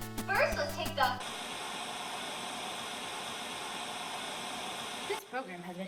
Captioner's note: static interruption